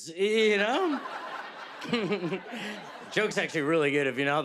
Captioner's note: chuckles